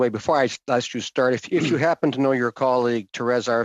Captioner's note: speaking French